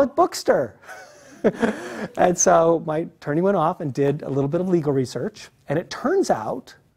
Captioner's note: laugh